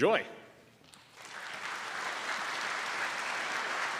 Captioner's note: applause